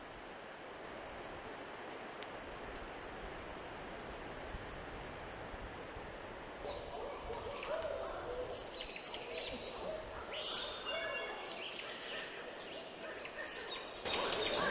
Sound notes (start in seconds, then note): 0.2 leaves rustling; 6.7 birds chirping